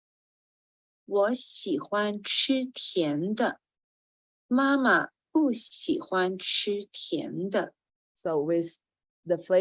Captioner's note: speaking chinese